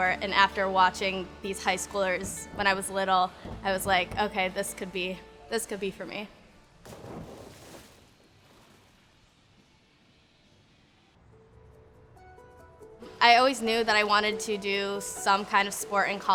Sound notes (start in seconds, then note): 6.9 splash